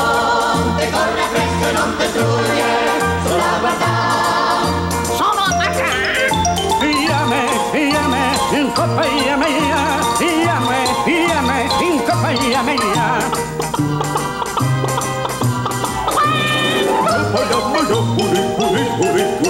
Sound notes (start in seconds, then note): 0.3 sings in italian; 13.2 chicken clucks; 17.1 sings in italian